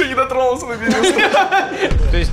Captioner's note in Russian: смех